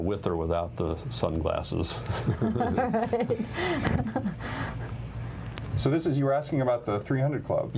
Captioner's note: laughter